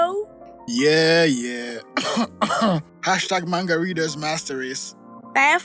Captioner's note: cough